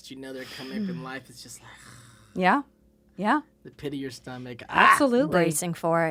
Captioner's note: sighs